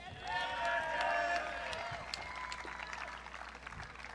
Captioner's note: audience cheering